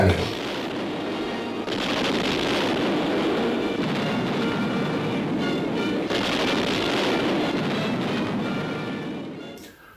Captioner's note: sound of artillery